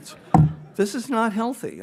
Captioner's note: audience laughs